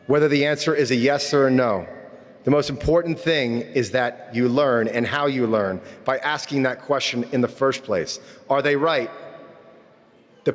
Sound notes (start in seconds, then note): none